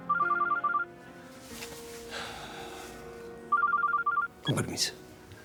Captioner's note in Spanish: suena el celular